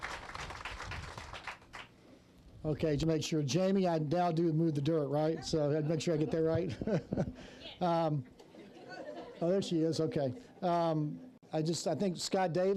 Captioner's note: applause